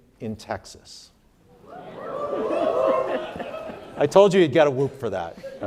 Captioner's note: some audience members whooping